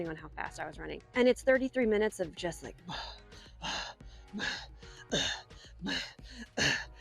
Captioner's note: grunts